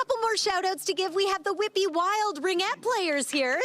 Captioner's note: applause